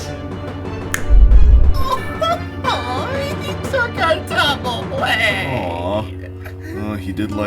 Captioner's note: sobbing